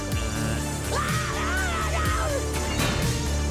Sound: screaming

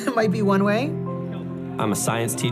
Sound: laughter

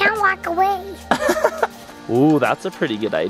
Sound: laughing

